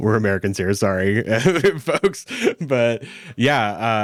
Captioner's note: laughs